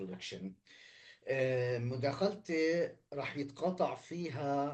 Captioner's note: speaking arabic